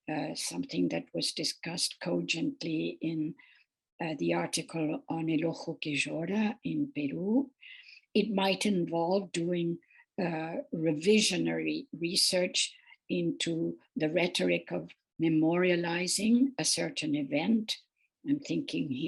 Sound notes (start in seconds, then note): 4.6 speaking foreign language